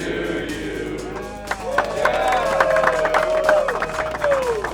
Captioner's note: applause/cheering